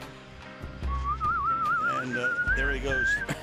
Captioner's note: whistling